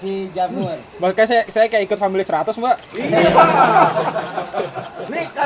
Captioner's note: laughing